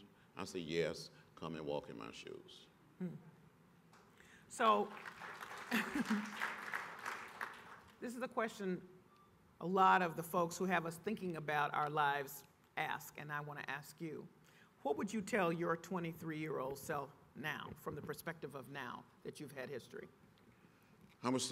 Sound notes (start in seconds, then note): 4.6 applause